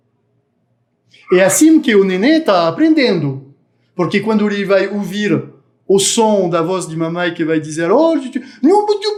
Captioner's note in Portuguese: balbucios